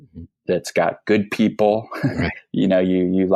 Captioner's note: laughs